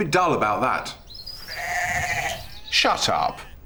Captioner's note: loud bleating